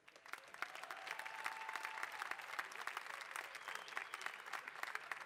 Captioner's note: applause